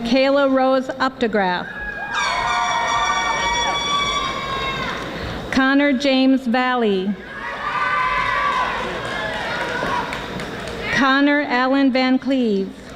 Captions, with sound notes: Michaela Rose Uptegraph (audience applauding) Connor James Vahle (audience applauding) Connor Allen Van Cleave